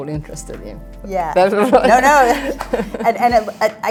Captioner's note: laughing